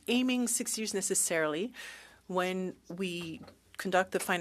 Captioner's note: speaking French